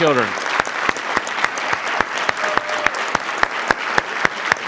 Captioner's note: audience clapping